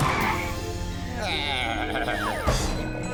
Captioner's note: bleating